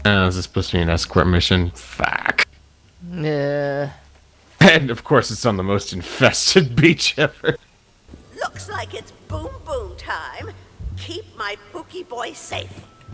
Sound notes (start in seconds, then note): none